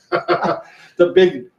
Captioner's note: both laugh